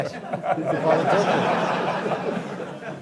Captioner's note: laughing